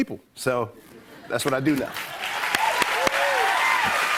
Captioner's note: cheers and applause